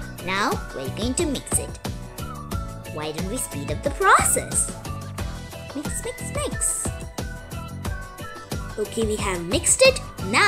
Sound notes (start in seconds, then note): none